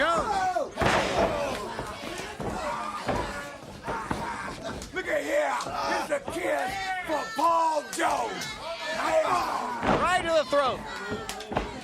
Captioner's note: crowd chatter